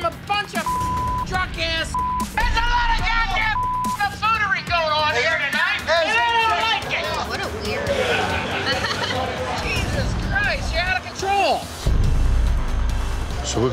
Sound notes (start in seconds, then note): 9.1 laughs